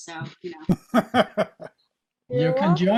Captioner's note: laughing